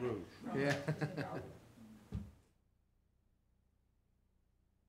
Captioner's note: laughing